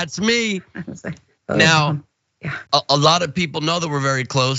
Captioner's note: laugh